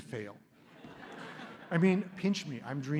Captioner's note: laughter